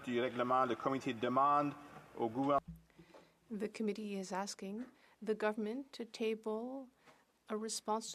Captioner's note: speaking French